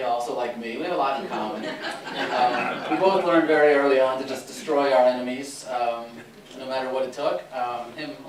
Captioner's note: laughter